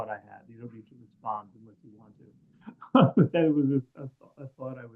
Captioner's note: laughs